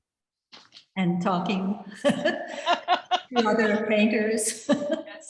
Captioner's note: laughs